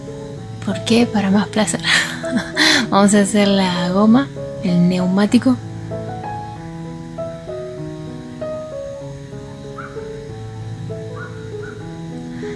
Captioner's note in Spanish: risas